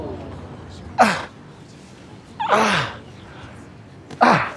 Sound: gasps; grunting

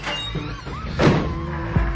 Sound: door squeaking; door slamming

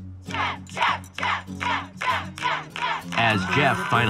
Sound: All chanting "Geoff!"

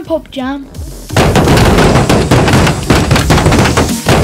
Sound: clunking

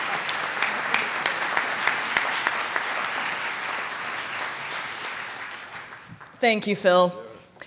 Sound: applause

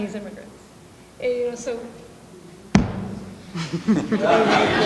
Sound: laughing

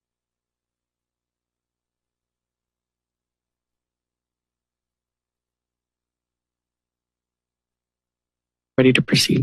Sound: silence

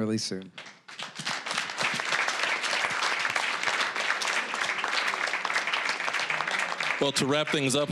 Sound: applause

